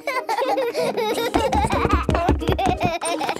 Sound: both laughing

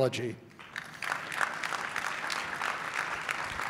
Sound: clapping

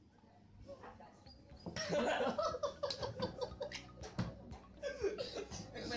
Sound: laughing

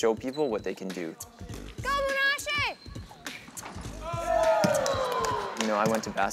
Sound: sounds of basketball game

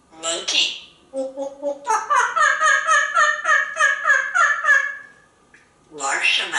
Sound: making monkey sounds

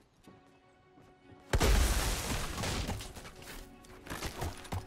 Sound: door shattering

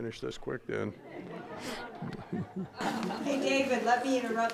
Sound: audience laughing

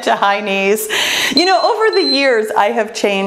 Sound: timer beeps

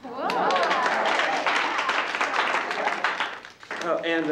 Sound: applause

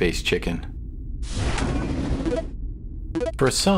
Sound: boom!

